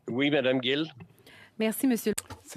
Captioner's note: speaking French